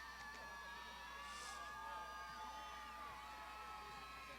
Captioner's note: graduands shouting